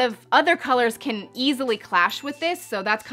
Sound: chiming

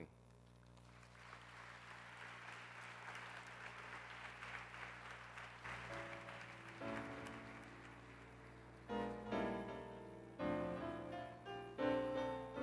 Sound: applause

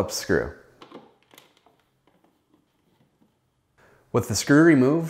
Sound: screw turning

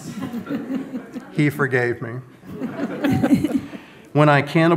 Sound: audience laughs

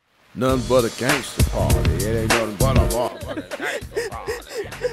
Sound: giggles of frieight

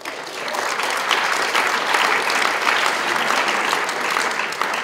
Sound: applause

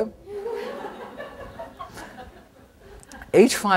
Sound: crowd laughs

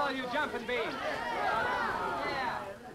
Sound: party goers chattering

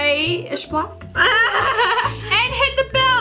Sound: both laugh

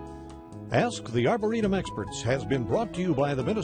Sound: rhythmic music; voiceover

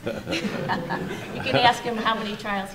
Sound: laughter

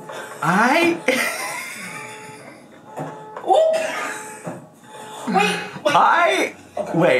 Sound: laughs; car alarm blaring

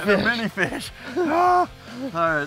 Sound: sigh

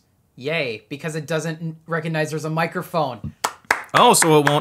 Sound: claps

